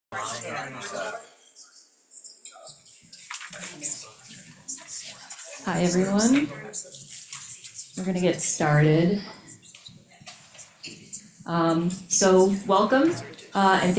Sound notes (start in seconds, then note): 4.1 people chattering